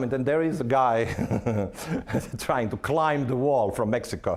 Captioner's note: laughing